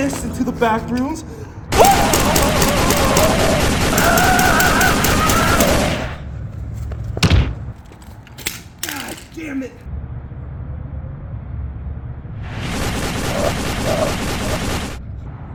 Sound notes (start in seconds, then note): 1.7 gun fires; 6.8 thuds; 7.1 gun clanks; 12.4 explosion sound